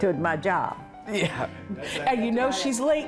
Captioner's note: laughs